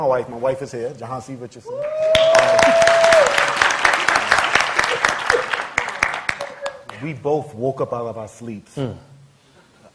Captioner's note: laughter